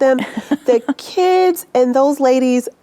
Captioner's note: laughing